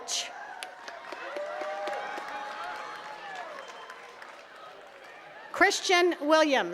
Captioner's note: attendees cheering and clapping